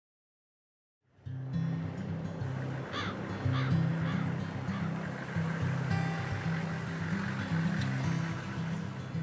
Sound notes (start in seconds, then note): 1.5 light hearted music; 2.8 birds cawing; 5.4 engine rumbles